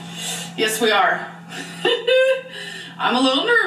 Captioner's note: laughs